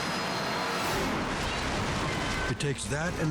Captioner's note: rapids thundering